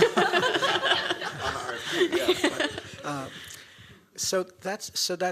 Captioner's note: laughter